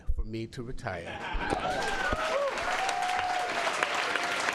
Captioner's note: cheers and applause